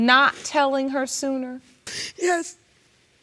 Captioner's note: sobbing